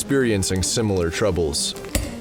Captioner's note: A chopping sound